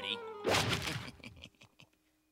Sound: chuckling

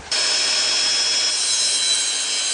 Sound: saw sounds

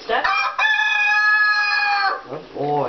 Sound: crowing

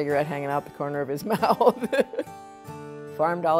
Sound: laughs

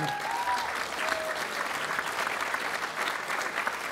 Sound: applause

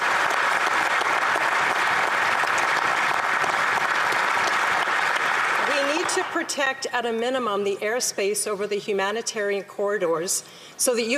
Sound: applause

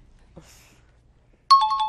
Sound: bell rings

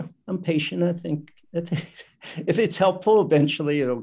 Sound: laughs

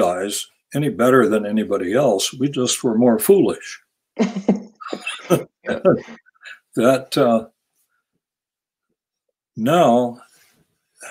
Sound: laughs

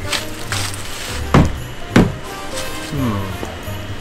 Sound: windows closing

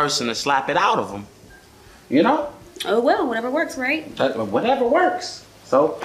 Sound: none

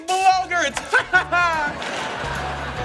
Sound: laughing

